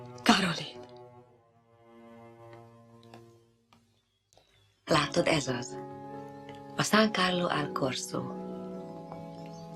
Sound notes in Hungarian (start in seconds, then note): 0.5 lelkesen; 2.2 lágy zenei lezárás